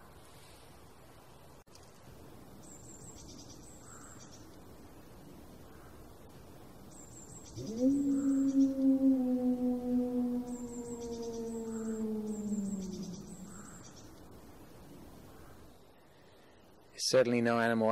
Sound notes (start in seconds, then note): 7.5 distant howl